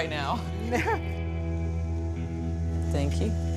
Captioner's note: laughs